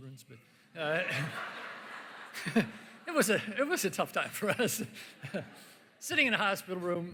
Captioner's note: laughter